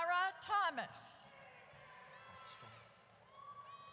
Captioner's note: audience cheers